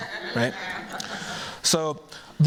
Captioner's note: laughter